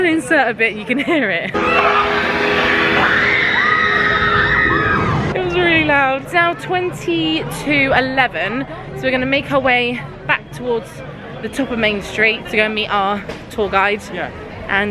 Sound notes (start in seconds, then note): 1.5 people screaming